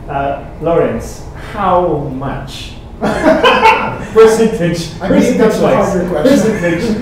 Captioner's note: laughing